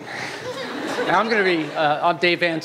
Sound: laughter

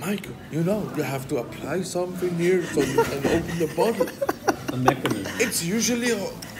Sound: laughter

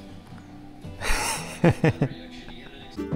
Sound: laughs

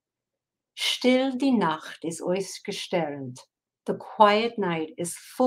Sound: speaking in foreign language

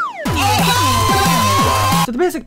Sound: loud screaming

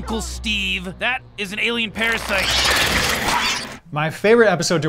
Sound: squeals

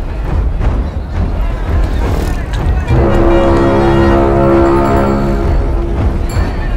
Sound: vendors clamoring

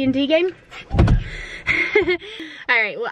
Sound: whispering

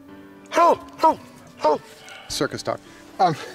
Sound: gentle music; Henry barking

